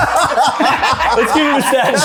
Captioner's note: people laughing